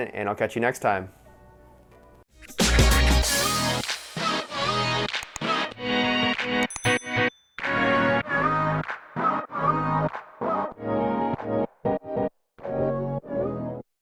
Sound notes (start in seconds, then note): 2.4 upbeat music; 6.6 bell dings; 9.2 upbeat music